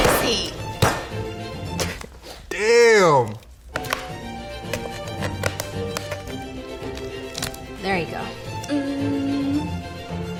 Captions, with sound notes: - Messy. [leg snaps] - Damn! [bones crunching] [bone cracks] - There you go. - Um.